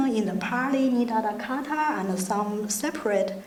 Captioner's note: speaking in foreign language